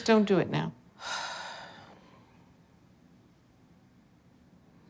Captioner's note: sighs